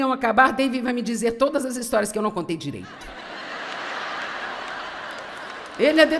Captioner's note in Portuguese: audiência ri